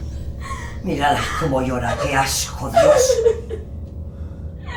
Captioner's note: Ira cries